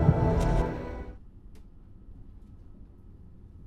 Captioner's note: music stops